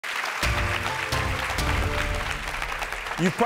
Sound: clapping

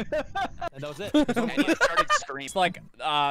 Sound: laughter

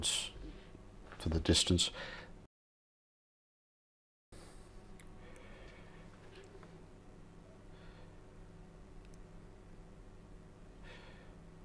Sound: silence

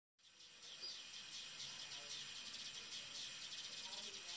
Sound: water running

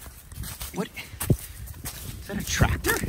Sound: shuffling dry leaves

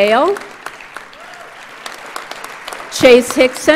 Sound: audience applauds

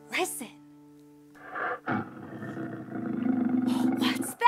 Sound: lion growling

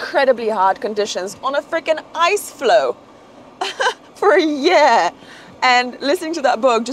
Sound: laughs

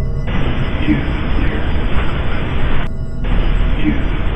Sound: static hissing

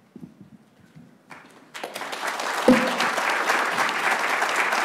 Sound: clapping

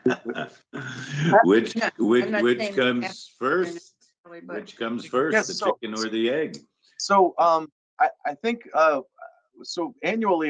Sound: laughs

